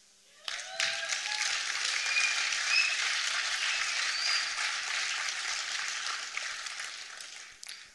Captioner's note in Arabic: تصفيق